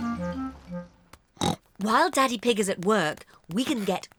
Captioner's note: oinks